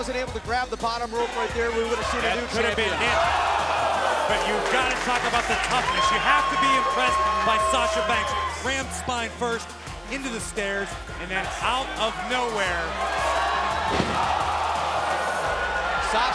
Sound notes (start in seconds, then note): 4.4 crowd cheering; 13.1 crowd cheering